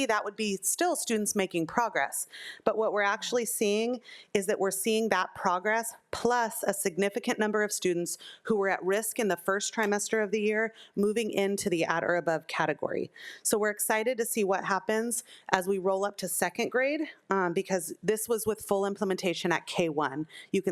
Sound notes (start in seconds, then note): none